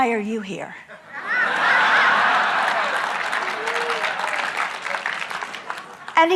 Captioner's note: audience laughing and clapping